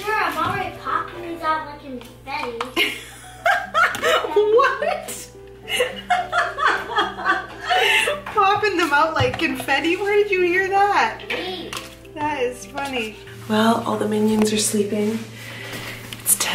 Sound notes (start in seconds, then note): 2.8 laughs loudly